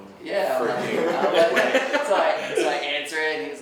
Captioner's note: laughing